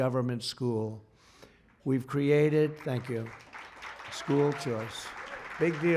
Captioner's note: applause